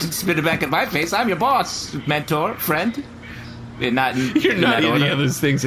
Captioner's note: laughing